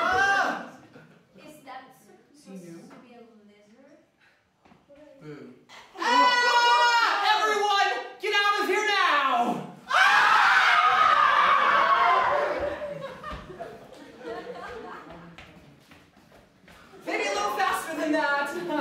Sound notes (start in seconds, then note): 6.0 students scream in terror?; 9.8 students scream, it's definitely terror this time